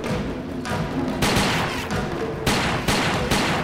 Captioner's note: gun shots